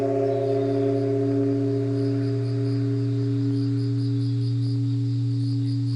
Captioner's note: gong